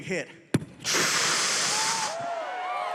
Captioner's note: inhales deeply; audience cheering